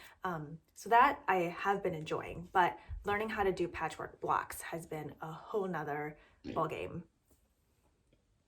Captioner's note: child burps